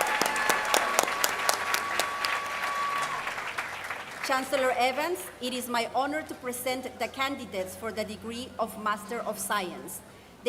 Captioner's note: applause